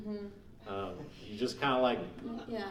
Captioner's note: laughing